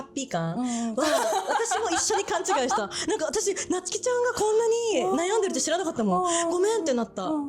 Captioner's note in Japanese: 笑い